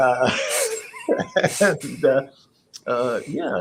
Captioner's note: laugh